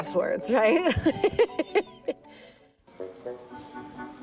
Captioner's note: laughing; orchestral music